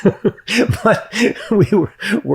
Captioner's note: laughs